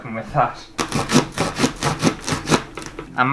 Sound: sawing Sounds

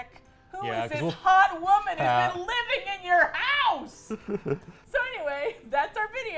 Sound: laughs

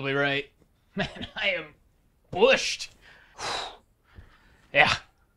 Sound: laughs

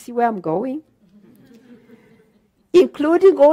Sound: audience laughter

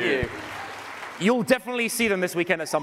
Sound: cheers and applause

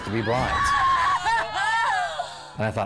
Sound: crying

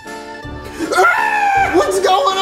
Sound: screams

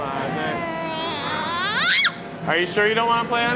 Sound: squealing

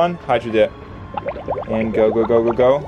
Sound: water bubbling

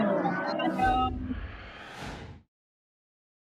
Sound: whoosh

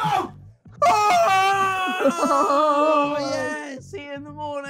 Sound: all cheering; laughing

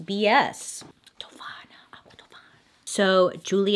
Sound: whispers

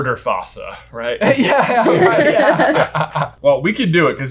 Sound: all laughing

